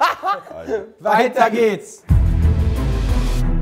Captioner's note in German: Lachen; Spannungsvolle Musik